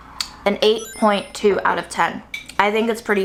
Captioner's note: chimes tinkling